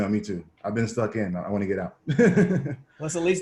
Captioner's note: laughs